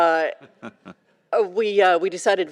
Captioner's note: chuckling